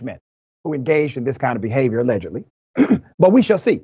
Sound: cough

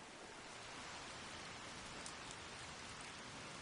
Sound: rain falls

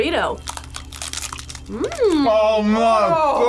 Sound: food crunching

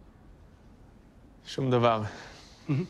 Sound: speaks Hebrew

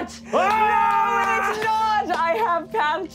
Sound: screaming

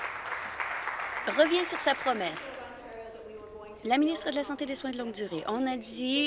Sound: applause

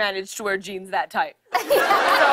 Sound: laughter

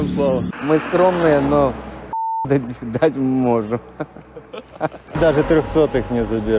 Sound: laughs

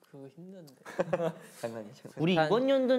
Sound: laughing

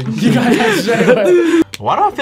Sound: group laughs

